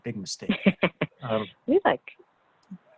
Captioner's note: laughs